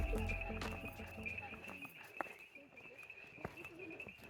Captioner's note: crickets chirping and footsteps on gravel